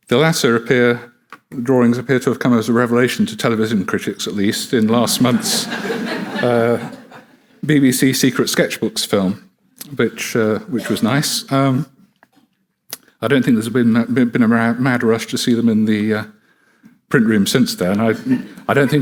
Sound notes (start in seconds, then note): 5.0 audience laughing